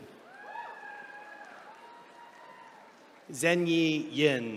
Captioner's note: attendees cheering